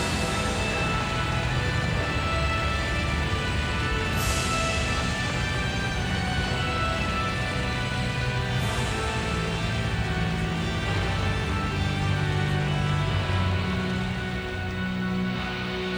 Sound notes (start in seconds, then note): 0.2 creepy music continues; 2.1 fire roaring